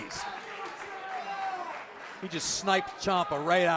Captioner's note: crowd chatter